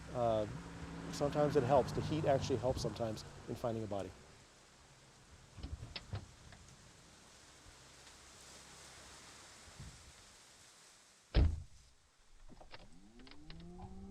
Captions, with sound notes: sometimes it helps. The heat actually helps sometimes in finding a body. (door slams)